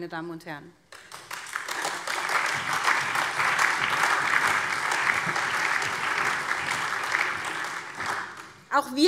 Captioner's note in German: Allgemeiner Beifall